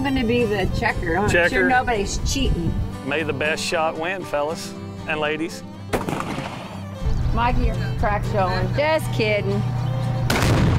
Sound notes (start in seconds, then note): 5.9 gunshot